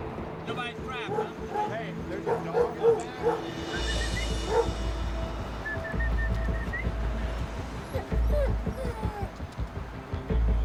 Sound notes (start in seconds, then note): 2.2 dog barking; 3.4 whistling